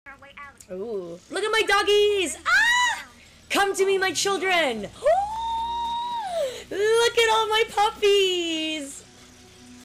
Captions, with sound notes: Ohh~ Look at my doggies! *High Pitched Ear Shattering Shriek* Come to me my children! *Another long gasp* Look at all my puppies!